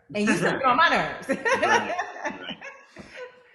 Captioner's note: Zainab and Kevin laugh